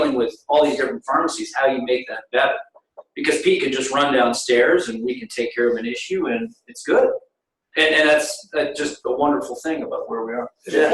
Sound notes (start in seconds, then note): 2.4 audio warps